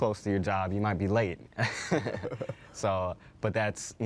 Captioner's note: chuckles